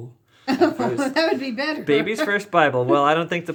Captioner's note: laughing